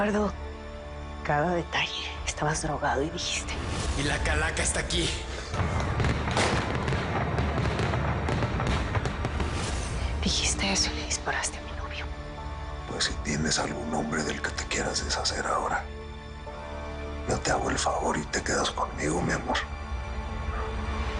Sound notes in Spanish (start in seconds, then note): 5.5 Disparos